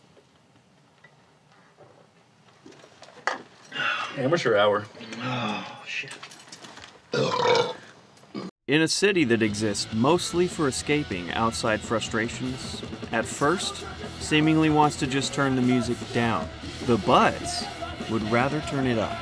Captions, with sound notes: Amateur hour Ah shit [burps] In a city that exists mostly for escaping outside frustrations at first Seemingly wants to just turn the music down The Butts would rather turn it up